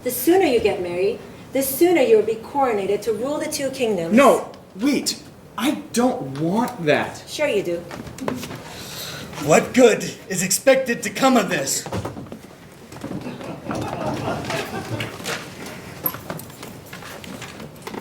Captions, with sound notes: The sooner you get married, the sooner you will be coronated to rule the two kingdoms. - No, wait. I don't want that. - Sure, you do. - What good is expected to come of this? (audience laughing)